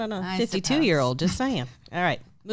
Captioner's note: laughs